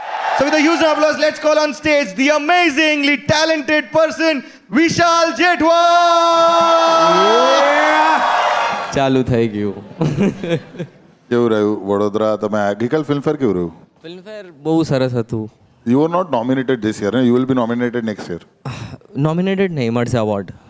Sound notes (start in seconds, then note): 6.6 crowd applauding